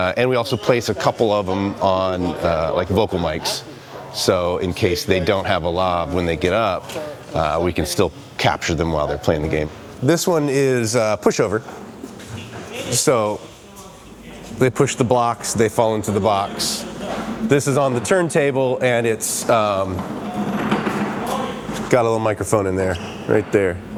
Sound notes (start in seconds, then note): 11.7 people chattering